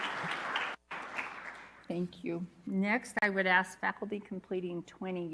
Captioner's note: applause